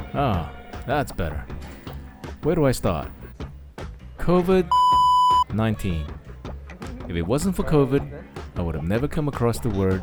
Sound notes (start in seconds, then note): 4.7 beep